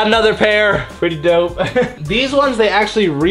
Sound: chuckles

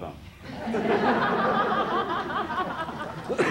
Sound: laughter

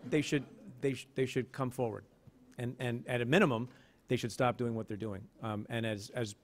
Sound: stutters

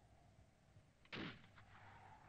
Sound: sporadic gunfire

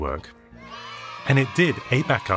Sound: children cheering

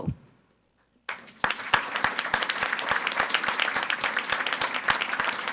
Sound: audience applauding

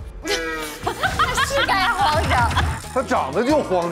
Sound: hahahaha

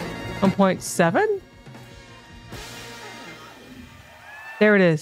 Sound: upbeat music; audience cheering

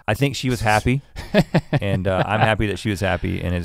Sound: laughs

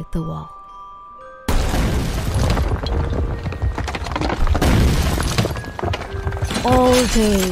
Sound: crashing Noises

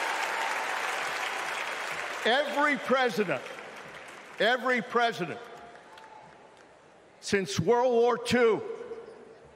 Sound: cheering

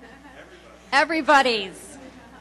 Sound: laughs; voiceover

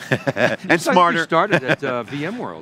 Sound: laughing

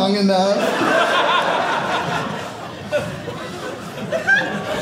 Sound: audience laughing

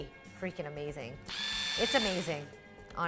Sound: machine whirs

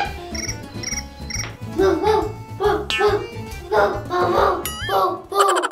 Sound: dog sound

